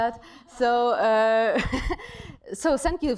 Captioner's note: laughter